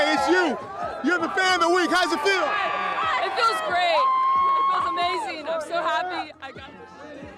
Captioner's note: cheering and chanting